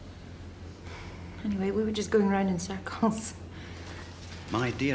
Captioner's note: sighs